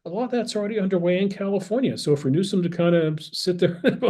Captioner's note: laugh